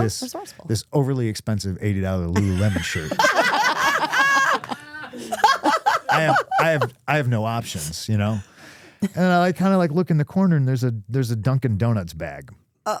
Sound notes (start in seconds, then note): 2.3 all laughing